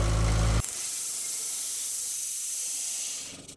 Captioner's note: engine roaring; saw whizzing